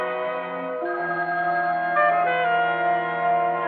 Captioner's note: phone ringing